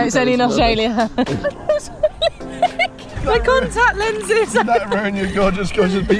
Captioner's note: laughing